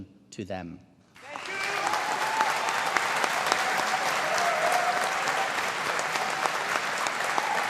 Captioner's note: audience applauding